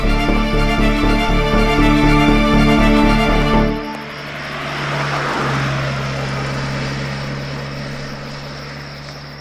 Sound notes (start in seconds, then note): 4.8 car speeding